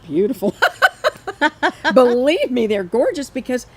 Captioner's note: both laughing